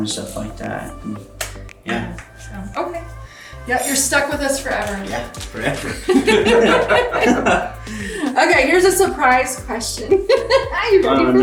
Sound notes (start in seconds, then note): 5.5 everyone laughing; 10.6 laughing